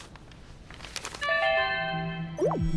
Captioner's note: computer chimes